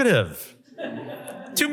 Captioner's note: laughter